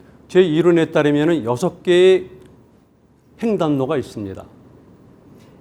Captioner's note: speaking in Korean